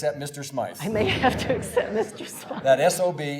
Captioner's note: laughing